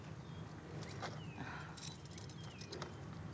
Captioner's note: keys jingling